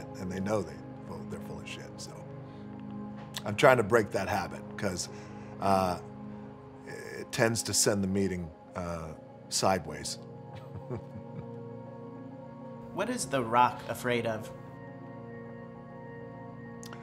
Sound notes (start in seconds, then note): 10.5 chuckles; 11.1 relaxing music